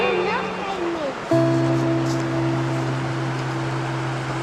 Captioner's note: foreign language